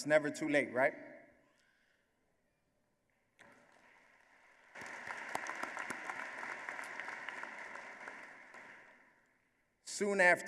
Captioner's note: applause